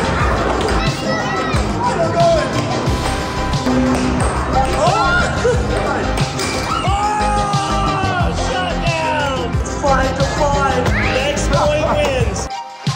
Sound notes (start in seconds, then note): 0.0 children exclaiming; 6.3 people cheering